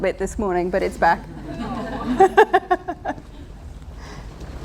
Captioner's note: laughter